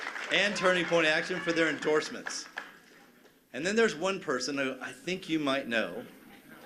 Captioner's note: cheers and applause